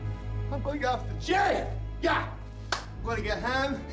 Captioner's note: claps hands